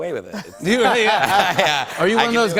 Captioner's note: laughter